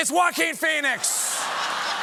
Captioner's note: applause; laughter